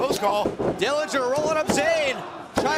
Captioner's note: crowd cheering